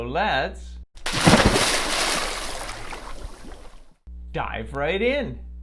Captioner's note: water splashes